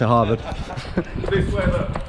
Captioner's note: laughing